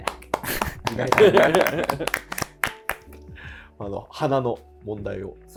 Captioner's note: laughing